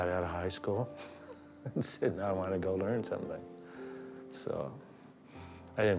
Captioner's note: chuckles